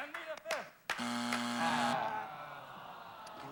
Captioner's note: buzzer